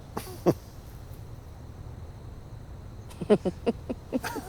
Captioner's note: man chuckles; both laughing